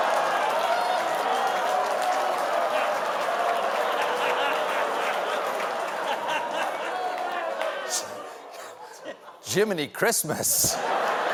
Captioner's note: audience reacts